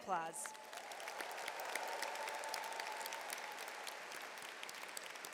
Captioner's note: audience cheers and applauds